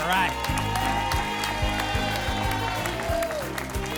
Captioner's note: applause and cheering